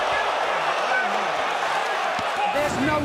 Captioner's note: crowd cheering